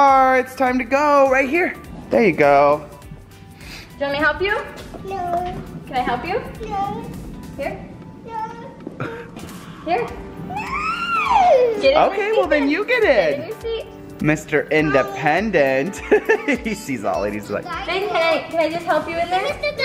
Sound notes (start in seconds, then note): 15.8 laughs